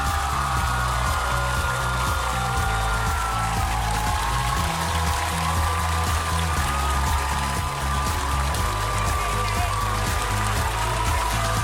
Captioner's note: applause